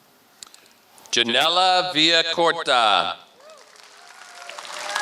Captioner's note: applause